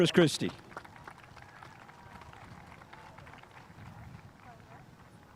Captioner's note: spectators applauding